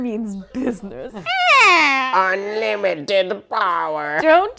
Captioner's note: old lady voice